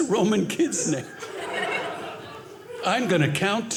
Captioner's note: audience laughing